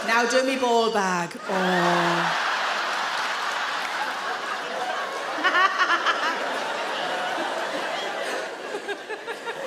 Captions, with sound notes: Now do me ball bag, oh! (audience laugh loudly) (Sarah laughs)